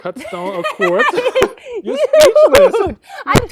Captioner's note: laughs